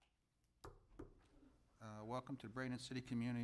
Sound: knocks desk

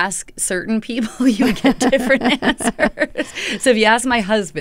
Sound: laughter

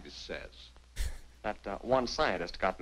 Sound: chuckles

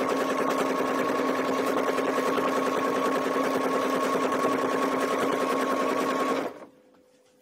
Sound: sewing machine whirring

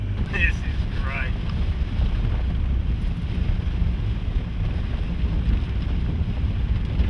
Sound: sound of car traveling on rough terrain

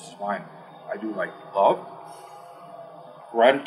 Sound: inhale

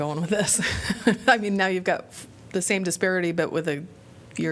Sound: laughter

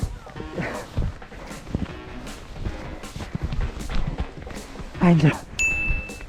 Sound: rough breathing

